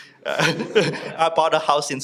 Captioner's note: audience laughs